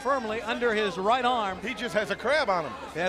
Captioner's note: crowd chatter